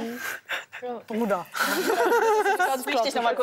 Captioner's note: laughter